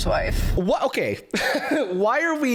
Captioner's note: laughs